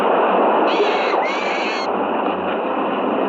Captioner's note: bird shrieking